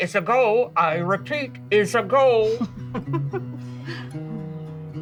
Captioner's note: laughs; gentle music